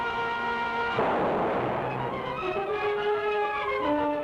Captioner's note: gun fires